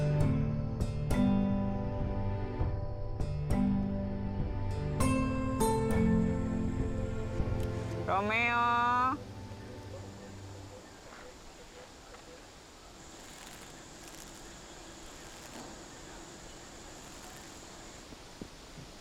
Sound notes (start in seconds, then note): 8.3 speaking in foreign language